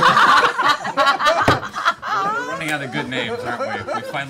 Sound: laughter

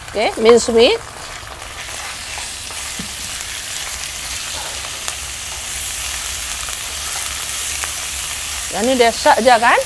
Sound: sizzling minced meat & onions

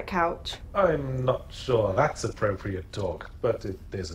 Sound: voiceover

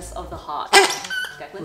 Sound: squeaks

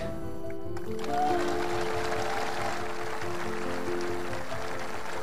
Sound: crowd applauding

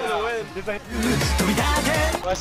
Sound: crowd cheering; people chattering; foreign music playing

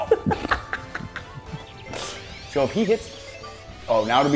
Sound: laugh

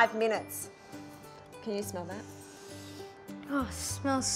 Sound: inhales deeply

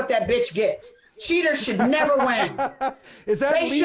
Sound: laughing

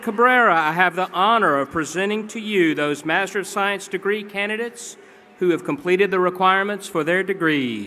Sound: cheering pplause

